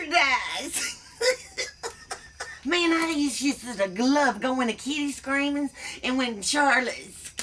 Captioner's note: laughs